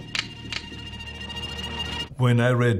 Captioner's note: knife clicking; knives clicking